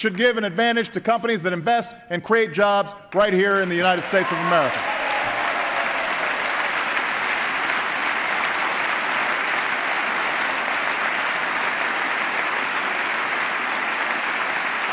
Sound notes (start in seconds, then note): 9.5 applause